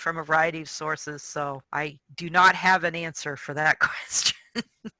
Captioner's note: chuckles